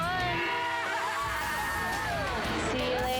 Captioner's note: people cheering